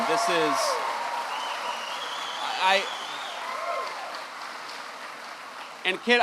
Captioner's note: applause